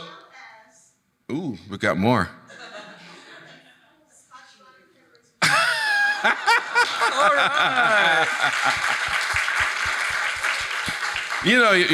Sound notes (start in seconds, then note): 2.8 audience laughing; 5.4 laughing; 8.5 laughs; 9.5 audience applauding